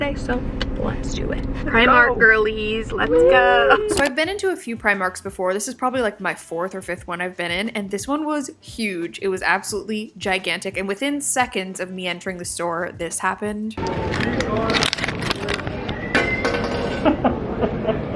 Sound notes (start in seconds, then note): 16.1 hanger breaks